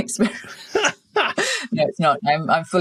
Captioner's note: laughing